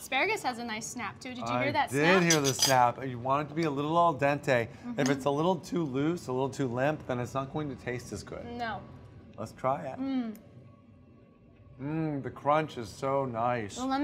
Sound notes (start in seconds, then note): none